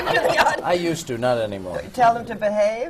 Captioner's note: laughter